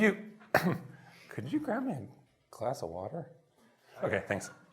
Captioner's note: coughs